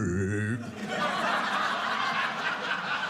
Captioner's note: audience laughing